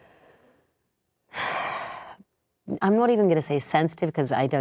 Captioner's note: sighing